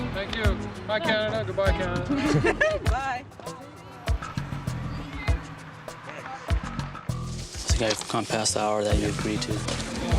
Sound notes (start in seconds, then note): 2.1 laughing; 5.5 upbeat music